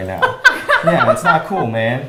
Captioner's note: laughs